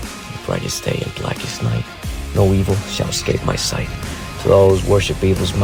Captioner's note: whispering